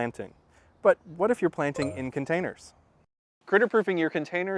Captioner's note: ding